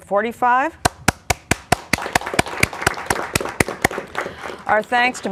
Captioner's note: applause